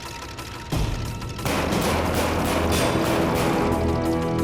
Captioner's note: banging on door; gun cocks